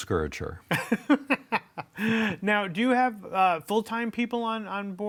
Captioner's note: laughs